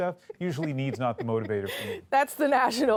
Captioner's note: laughter